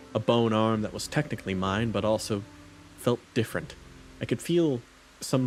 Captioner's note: none